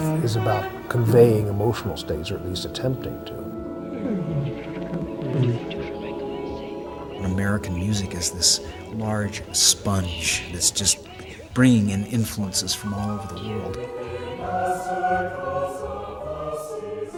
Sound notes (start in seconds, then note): 4.0 layered voices; 14.1 choir singing